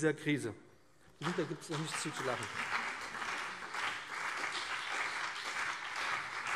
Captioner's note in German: Beifall BÜNDNIS 90/DIE GRÜNEN und CDU - Vereinzeltes Lachen SPD